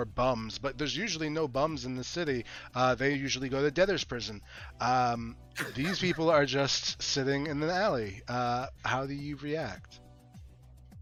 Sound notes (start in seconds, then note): 5.6 laughs